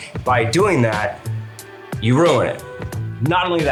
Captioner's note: none